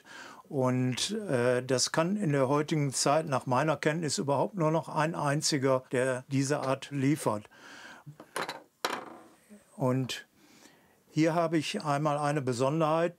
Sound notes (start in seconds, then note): 8.3 clattering